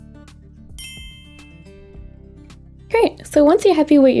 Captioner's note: bells chiming